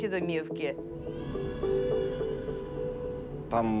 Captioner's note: infants wailing faintly